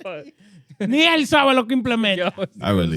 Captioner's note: speaking In Foreign Language